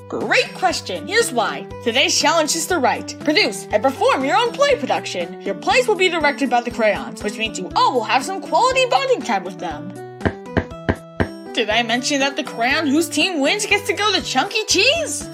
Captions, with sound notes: Great question, here's why! Today's challenge is to write, produce, and perform your own play production! Your plays will be directed by the Crayons, which means you all will have some quality bonding time with them! *four foot taps* Did I mention that the Crayon whose team wins gets to go to Chunky Cheese?